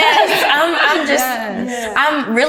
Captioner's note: all laughing